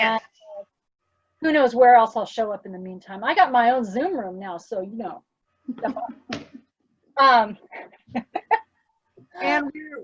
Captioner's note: laughs